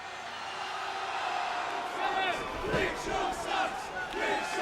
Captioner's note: applause